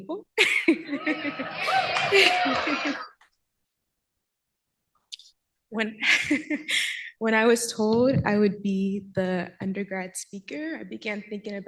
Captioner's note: laughs